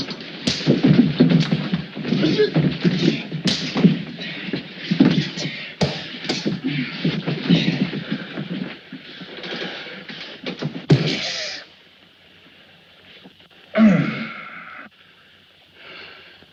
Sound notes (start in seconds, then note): 2.1 Tony grunts; 3.8 punch thuds; 5.8 punches thud; 13.7 Joe grunts